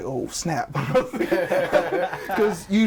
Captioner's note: all laughing